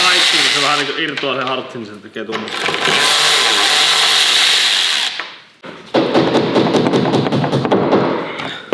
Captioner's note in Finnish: koputusta